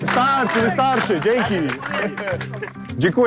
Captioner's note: speaking Polish